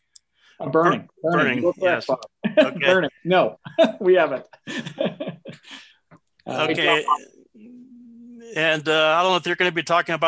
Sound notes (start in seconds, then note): 6.9 chuckling